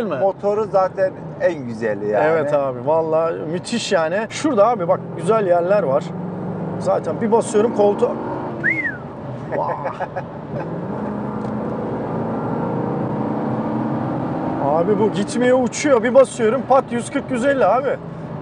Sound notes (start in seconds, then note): 8.6 whistling; 9.4 laughings